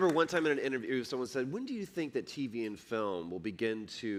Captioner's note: applause